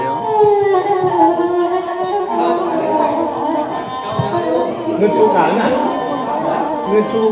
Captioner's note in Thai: เสียงหัวเราะ